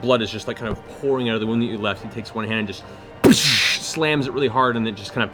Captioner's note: impact sound